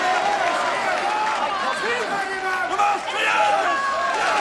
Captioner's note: crowd yelling